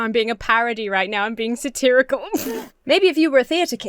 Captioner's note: giggles